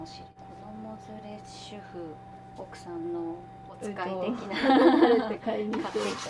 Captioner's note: laughter